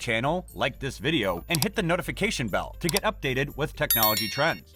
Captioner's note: with a bell sound